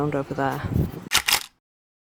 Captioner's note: camera click